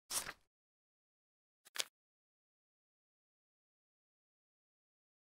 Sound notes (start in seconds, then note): 0.1 paper unfolds; 1.7 paper folds